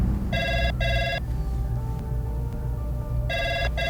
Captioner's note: phone ringing